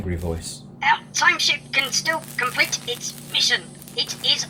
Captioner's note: arthur, strained